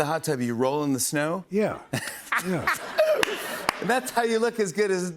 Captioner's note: laughs